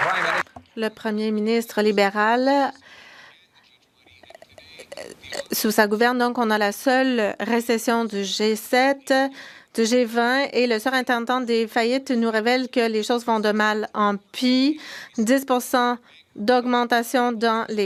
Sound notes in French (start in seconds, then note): 0.0 applaudissements; 5.5 voix de l'interprète